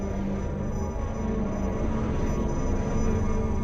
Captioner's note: none